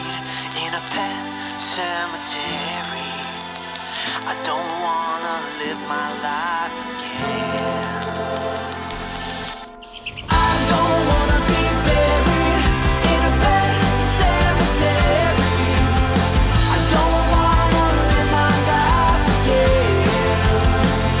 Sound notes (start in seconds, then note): 9.7 squeaking